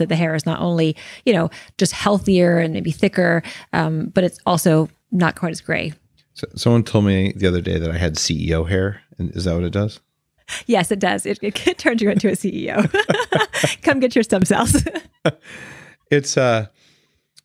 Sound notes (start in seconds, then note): 11.6 laughing; 16.0 laughs